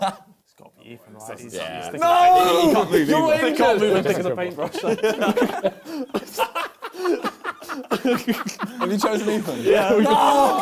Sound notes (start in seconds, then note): 0.2 crowd mumbling; 4.7 both laughing